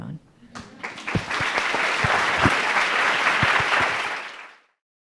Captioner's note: audience clapping